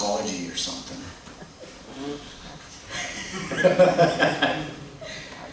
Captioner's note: laughter